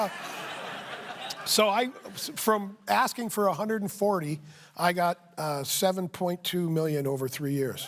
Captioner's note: laughter